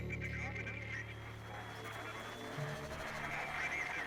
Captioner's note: crowd